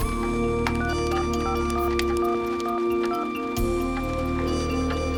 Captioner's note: dialing; ringing